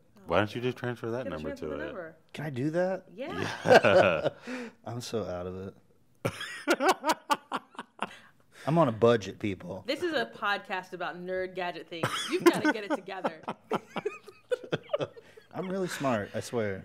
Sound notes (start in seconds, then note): 3.3 chuckles; 6.3 chuckles; 12.0 chuckles